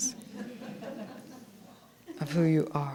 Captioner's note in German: leichtes Gelächter